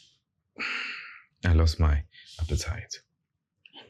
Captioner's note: sighs